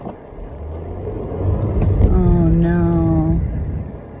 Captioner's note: tires spin